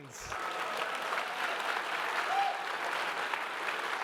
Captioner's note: audience cheering